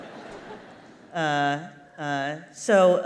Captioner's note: laughter